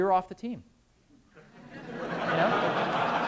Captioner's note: laughter